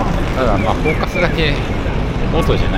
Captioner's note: wind noise audio